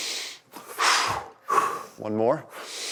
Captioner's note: sucks in air loudly; exhales loudly